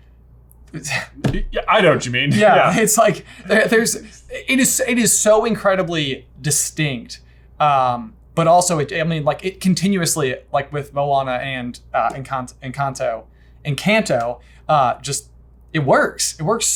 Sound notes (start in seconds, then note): 2.3 both laughing